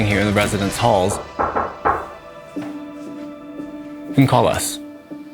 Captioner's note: door knocking